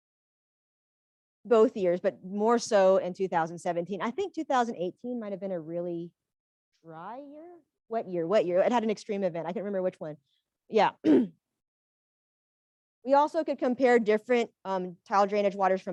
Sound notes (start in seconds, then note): 11.0 clears her throat